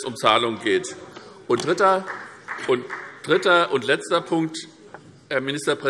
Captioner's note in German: Beifall SPD